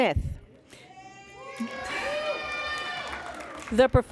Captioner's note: cheering and Applause